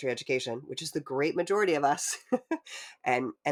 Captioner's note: chuckling